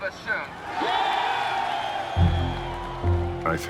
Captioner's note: crowd cheers